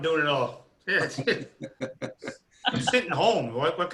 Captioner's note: laughing